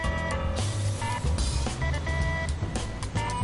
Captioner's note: phone rings